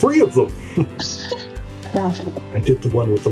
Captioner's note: adorable giggling noises